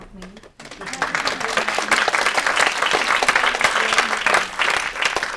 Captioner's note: audience applauding